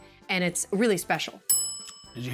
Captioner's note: ding